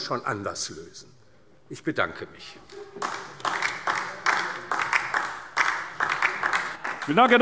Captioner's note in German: Beifall DIE LINKE